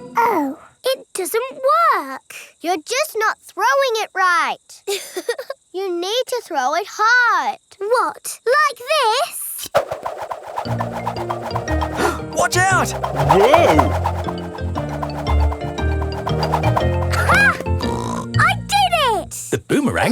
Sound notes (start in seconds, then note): 5.3 chuckles; 17.8 snorts